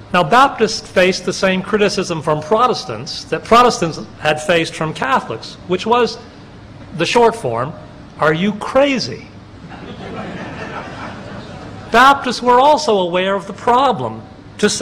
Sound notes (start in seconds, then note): 9.6 laughter